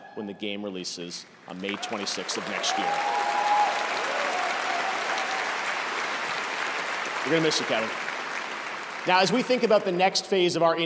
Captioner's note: cheers and applause